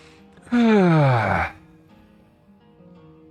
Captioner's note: yawn